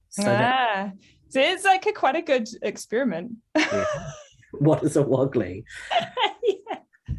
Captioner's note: laughs